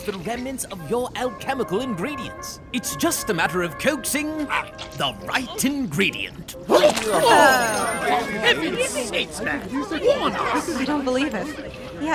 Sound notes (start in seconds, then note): 4.7 Kakkay grunting; 6.8 group exclaiming in disgust; 6.9 liquid splats